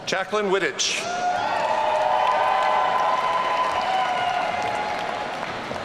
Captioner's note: audience cheering